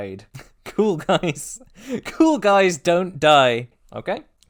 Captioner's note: laugh